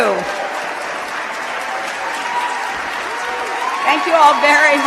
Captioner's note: cheers